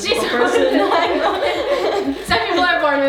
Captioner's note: laughing